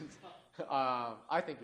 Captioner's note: laughter